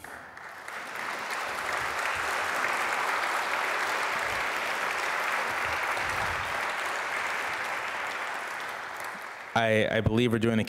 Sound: applause

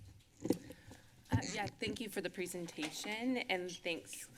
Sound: microphone squeaks

